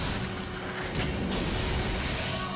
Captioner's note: explosions